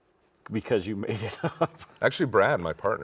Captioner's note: laughs